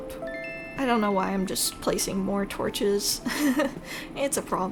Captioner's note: laugh